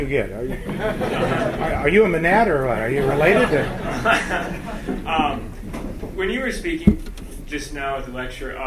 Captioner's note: laughter